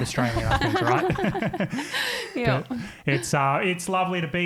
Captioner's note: all laughing